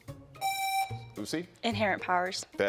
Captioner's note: buzzer rings